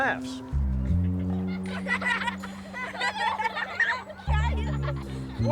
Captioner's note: laughter